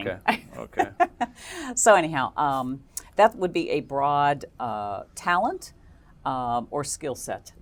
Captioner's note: laugh